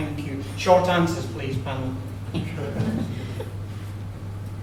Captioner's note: laughter